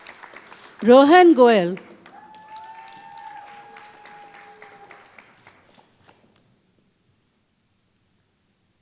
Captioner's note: applause